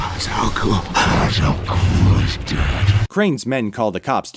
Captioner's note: demonic voice